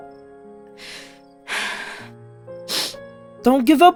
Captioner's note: sniffles